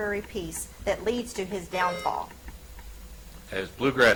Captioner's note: buzzer chimes